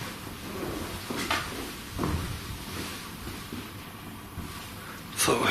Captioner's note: footsteps and creaks